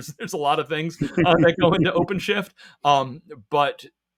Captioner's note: laughs